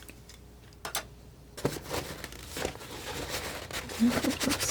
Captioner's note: scratching